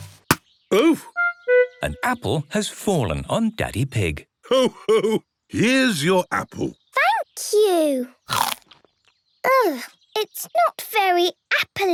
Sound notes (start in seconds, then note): 8.2 crunch!